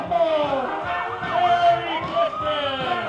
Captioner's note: police sirens